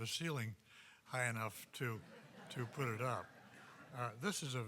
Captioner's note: audience laughing